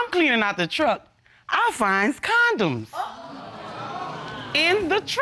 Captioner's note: audience exclaiming